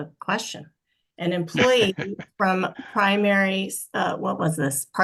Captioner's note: laughs